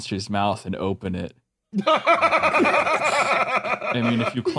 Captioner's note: laugh